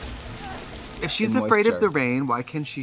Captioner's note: Anna grunts